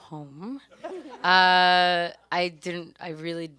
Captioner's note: audience and panelists laugh